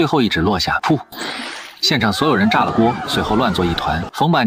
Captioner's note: poof